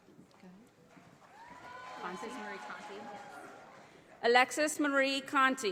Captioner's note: audience applauding